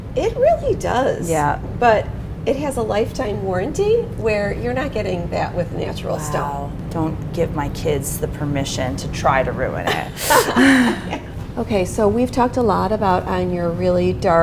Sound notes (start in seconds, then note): 9.8 both laughing